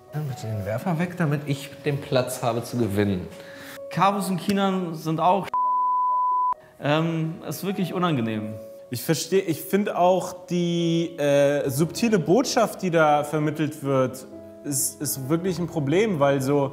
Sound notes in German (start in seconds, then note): 5.5 piep